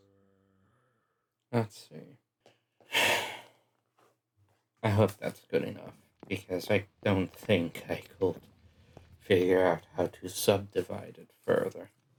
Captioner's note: poorly edited time skip sigh